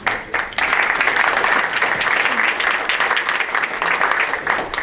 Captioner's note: audience applauds